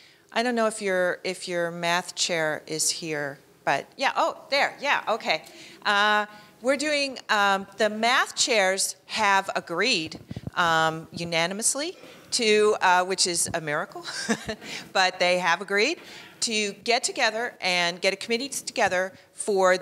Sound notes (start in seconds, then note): 14.1 laughs